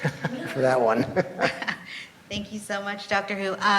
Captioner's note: laughs